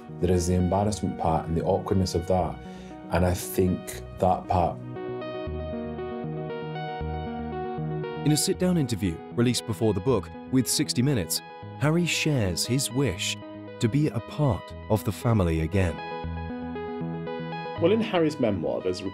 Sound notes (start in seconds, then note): 4.8 gentle music; 8.3 voiceover